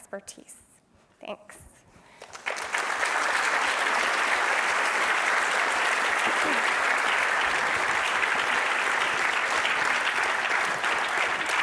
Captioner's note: applause